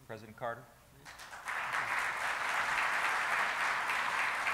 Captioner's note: applauding